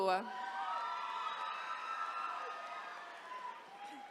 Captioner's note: attendees cheering